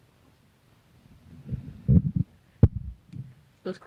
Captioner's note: microphone slides